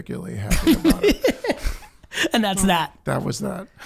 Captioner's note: laughing